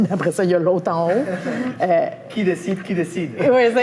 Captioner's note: laugh